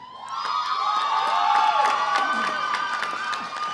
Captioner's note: cheering